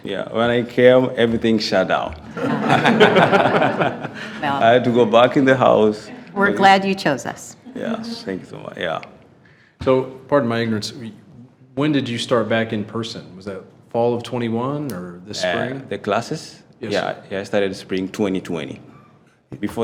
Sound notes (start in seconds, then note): 2.2 attendees laughing